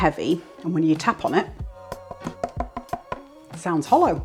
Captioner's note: thunk thunk thunk